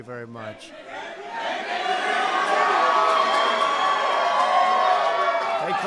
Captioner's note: applause